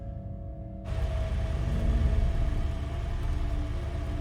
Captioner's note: car engine running